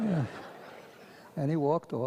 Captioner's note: audience laughs